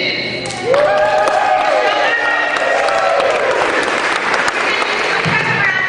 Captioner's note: cheering